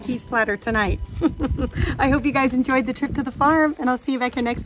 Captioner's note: laughs